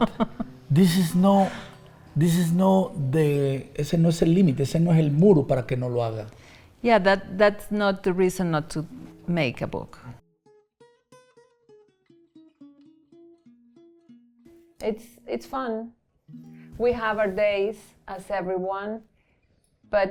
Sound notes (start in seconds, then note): 4.1 speaks Spanish